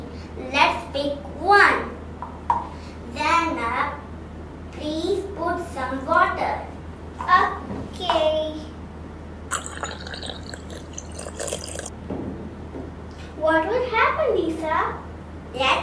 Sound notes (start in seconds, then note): 9.5 water pouring sound